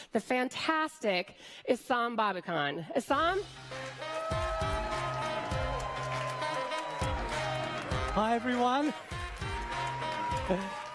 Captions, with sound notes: the fantastic Esam Babouhkan. Esam. (applause) - Hi Everyone. (applause)